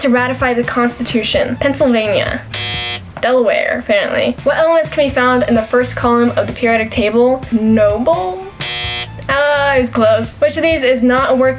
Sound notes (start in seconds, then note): 2.4 buzzer; 8.5 buzzer